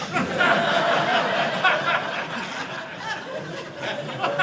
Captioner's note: audience laughing